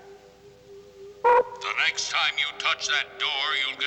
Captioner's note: man Over Speaker